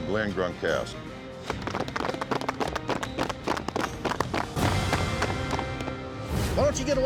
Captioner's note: applause